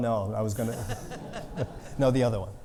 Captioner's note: audience laughing